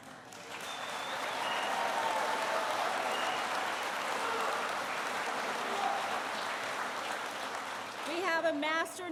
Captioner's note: applause